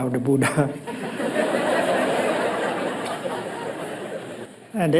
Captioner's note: crowd laughs